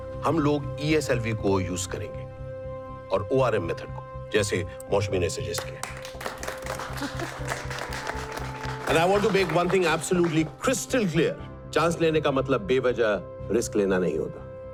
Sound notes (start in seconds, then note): 5.5 applauses; 5.9 Moushumi laughs